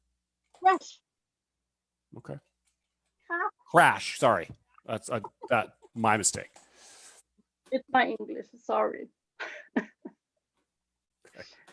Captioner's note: chuckles